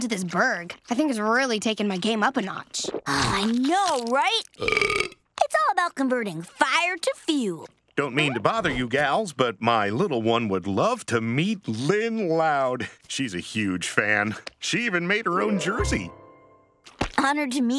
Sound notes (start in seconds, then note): none